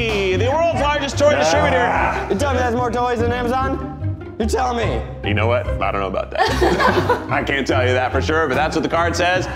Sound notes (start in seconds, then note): 1.3 groans; 6.4 laugh